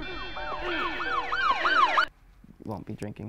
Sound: police sirens

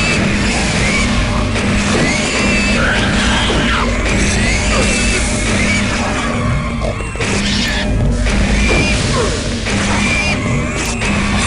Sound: gunfire and pig noises

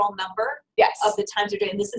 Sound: voiceover

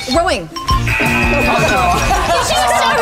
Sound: app buzzes; group laughing

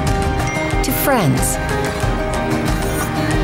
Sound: notification chiming

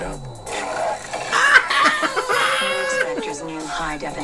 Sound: embarassed Exclaimations

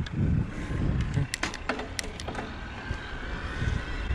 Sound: gears clicking; electric motor whining

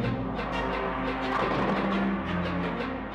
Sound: bowling pins clattering faintly; suspenseful music

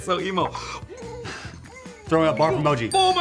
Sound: gags

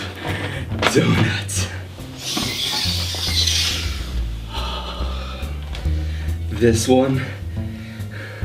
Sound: sighs

